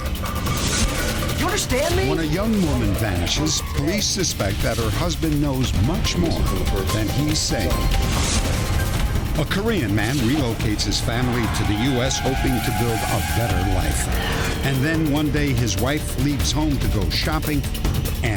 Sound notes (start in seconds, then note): 0.1 yelling; 8.0 whoosh; 13.9 whoosh